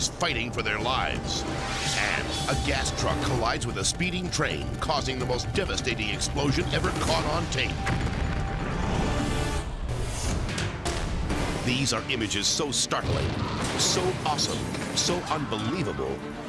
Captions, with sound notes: fighting for their lives, and a gas truck collides with a speeding train, causing the most devastating explosion ever caught on tape. (explosion booms) (dramatic music) These are images so startling, so awesome, so unbelievable,